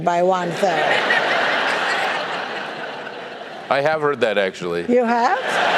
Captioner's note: laugh